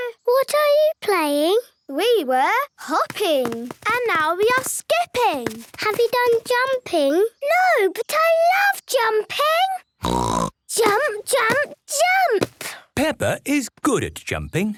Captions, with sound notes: - What are you playing? - We were hopping! - And now we are skipping! - Have you done jumping? - No! But I love jumping! (snort) Jump! Jump! Jump! - Peppa is good at jumping.